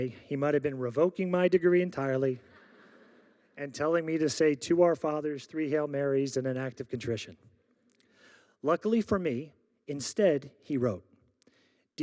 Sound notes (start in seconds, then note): 2.5 audience laughing